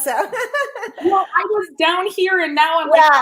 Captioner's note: laughing